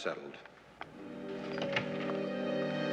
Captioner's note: door opens